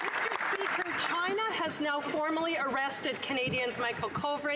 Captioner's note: some Applause